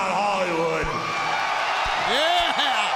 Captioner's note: crowd cheers